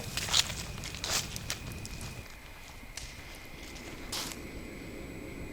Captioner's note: fire crackling